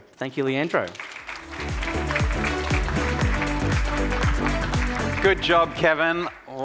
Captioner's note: audience applauding; upbeat music